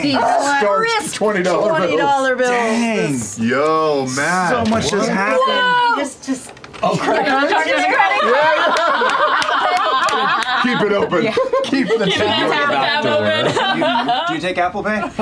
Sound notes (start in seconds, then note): 7.9 laughing; 10.1 laughter; 13.8 laughter